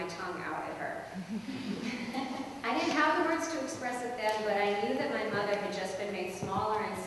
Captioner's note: laughter